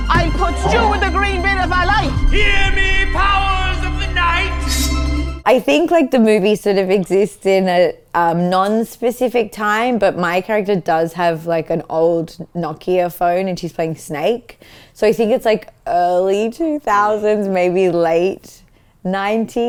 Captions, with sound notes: - I'll put stew in the green bin if I like! - Hear me, powers of the night! (knife clattering) - I think, the movie sort of exists in a non-specific time, but my character does have like an old Nokia phone, and she's playing Snake, so I think it's like, early 2000s, maybe late '90s.